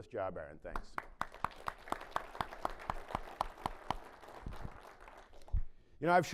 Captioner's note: applause